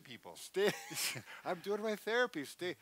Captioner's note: laughs